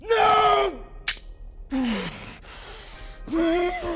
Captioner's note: clicking